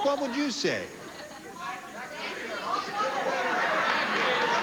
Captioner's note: scattered shouting